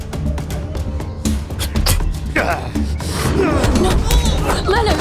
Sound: spitting; kids groaning; fists thudding

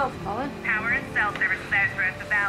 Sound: radio

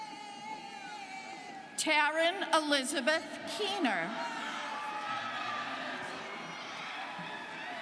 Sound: students cheering

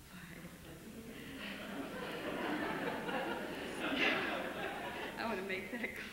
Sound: laughter

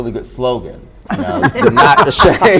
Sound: group laughs

